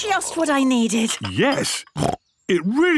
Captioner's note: snorts